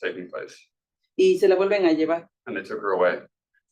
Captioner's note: speaking Spanish